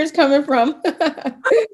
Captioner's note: laugh